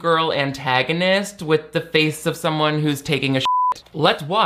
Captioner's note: beep